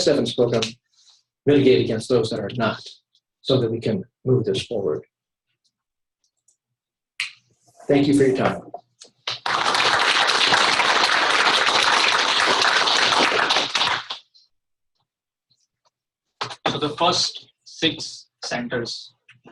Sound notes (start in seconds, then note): 12.6 applause